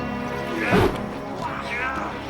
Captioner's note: metal clanging